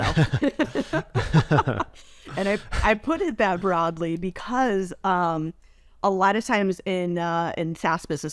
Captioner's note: laughs